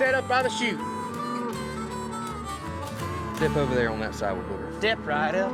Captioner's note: mooing